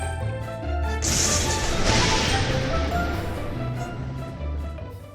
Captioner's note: lightning strikes